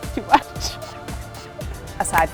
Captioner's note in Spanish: se ríe